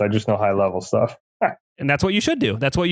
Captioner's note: laughs